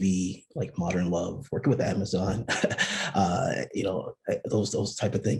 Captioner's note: giggles